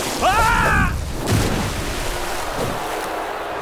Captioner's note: splashing; screaming